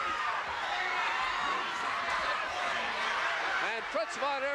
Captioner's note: audience cheering